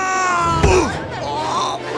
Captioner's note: thud